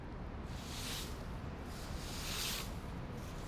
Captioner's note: broom swooshing